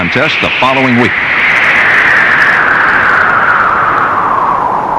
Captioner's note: wind whistling